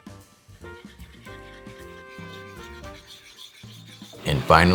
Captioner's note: whisking